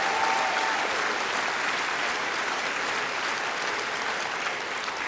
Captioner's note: applause